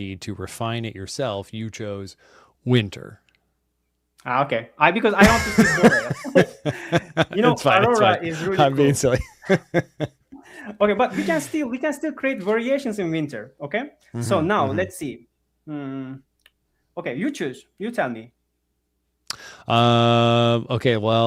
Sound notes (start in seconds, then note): 5.2 laughs